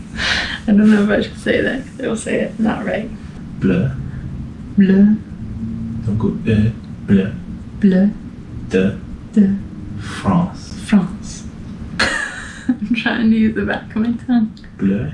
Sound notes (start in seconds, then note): 12.0 laughter